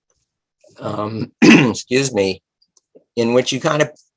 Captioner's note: clearing throat